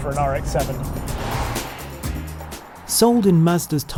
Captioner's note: car whooshes